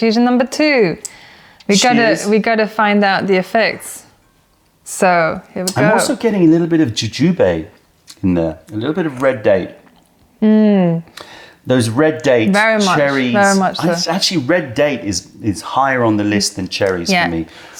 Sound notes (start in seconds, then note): 3.3 sips tea; 10.8 sips tea